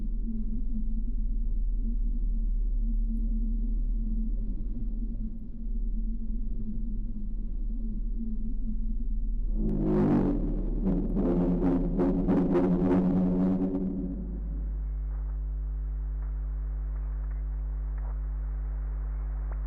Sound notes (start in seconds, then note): 9.6 ominous horns blaring; 13.5 static